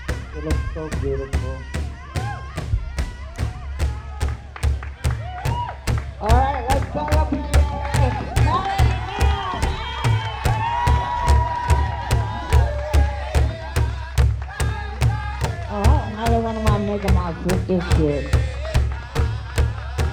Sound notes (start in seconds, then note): 7.6 crowd cheers; 13.3 clapping